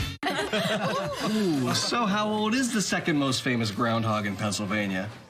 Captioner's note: laughter